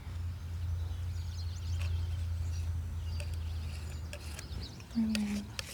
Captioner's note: birds chirping